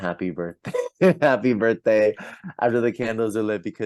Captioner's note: laughs